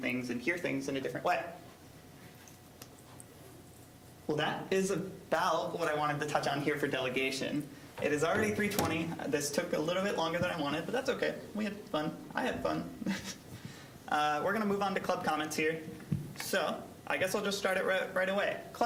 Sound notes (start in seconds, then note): 13.0 chuckling